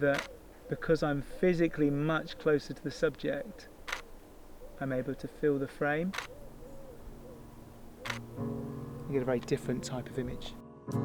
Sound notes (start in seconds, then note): 0.1 camera shutter; 3.8 camera shutter; 6.1 camera shutter